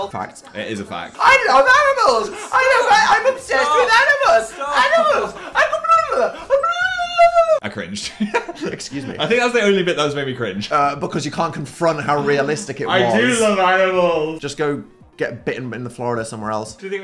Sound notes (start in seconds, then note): 6.7 babbling; 8.3 laughs